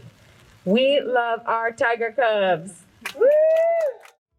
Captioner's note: cheering